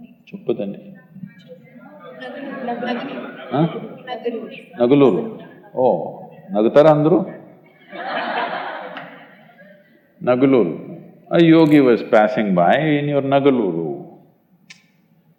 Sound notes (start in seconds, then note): 7.6 laughter